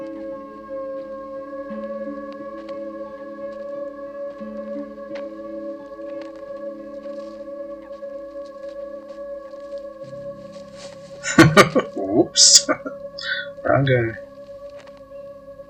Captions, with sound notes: [Laughing] Whoops. Wrong guy.